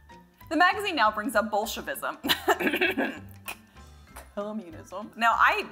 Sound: coughs

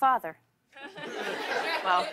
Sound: laughter

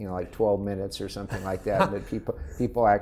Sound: laughing

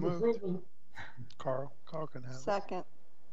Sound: members chuckling

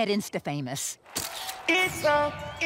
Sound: camera shutters

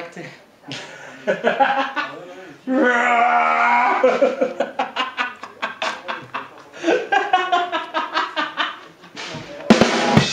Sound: Stupid and tired laughs and wookie screams

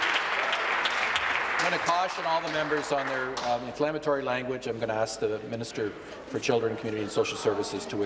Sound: applause

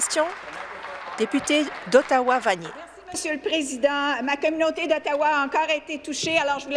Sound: applause

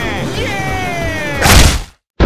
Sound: slap

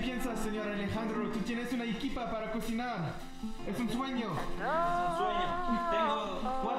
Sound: speaks Spanish

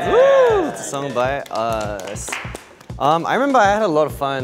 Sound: group claps

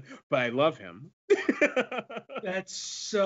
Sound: laughs

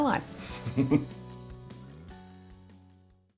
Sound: chuckles

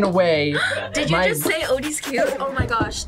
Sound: gasps

